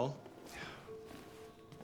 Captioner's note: sigh